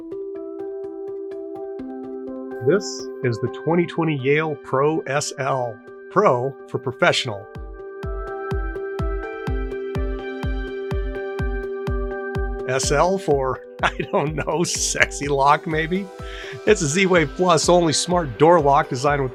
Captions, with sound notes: (upbeat music) - This is the 2020 Yale Pro SL, pro for professional. (upbeat music) SL for, (laughing) I don't know, sexy lock maybe? It's a Z-Wave Plus, only smart door lock designed